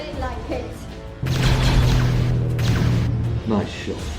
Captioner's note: lasers blasting